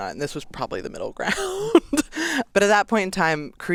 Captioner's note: laughs